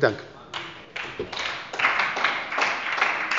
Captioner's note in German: Beifall bei der SPD